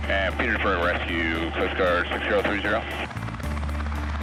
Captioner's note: man On Radio; intense music